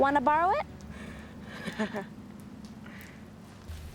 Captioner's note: Simon laugh